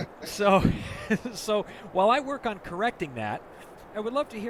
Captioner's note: laughs